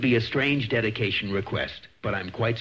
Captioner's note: distorted voice